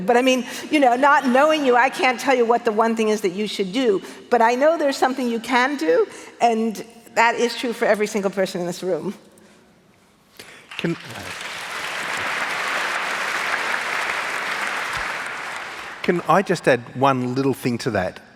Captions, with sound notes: but I mean you know, not knowing you I can't tell you what the one thing is that you should do. But I know there's something you can do and that is true for every single person in this room. [ Applause ] >> And can I just add one little thing to that?